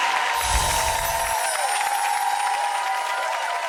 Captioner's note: applause